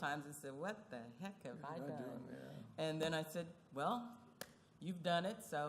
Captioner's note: none